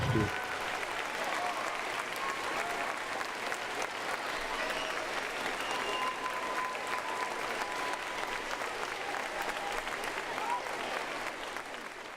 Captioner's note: applause